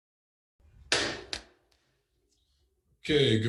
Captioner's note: gavel striking